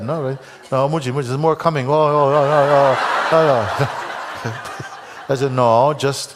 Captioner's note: laughter